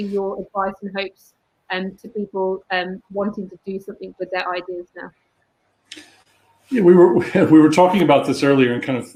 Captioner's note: erm